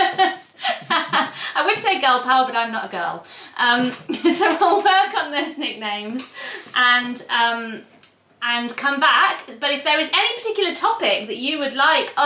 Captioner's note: laughs; laughs